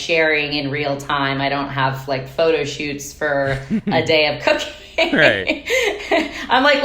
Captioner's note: laughing